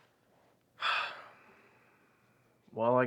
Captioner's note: Ben sighs